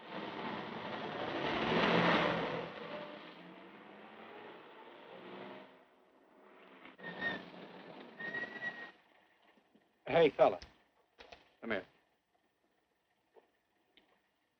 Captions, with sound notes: (Car revving) (Brakes squeaking) Hey, fella. Come here.